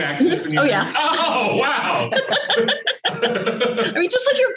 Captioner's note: laughter